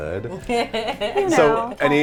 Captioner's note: laughing